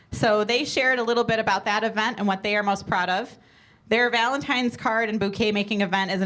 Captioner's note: none